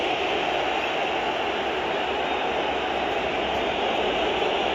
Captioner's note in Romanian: Aplauze